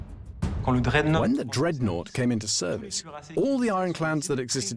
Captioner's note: voiceover